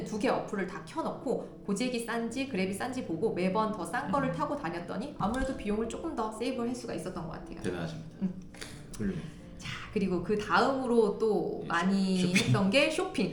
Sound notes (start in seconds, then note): 8.6 sighs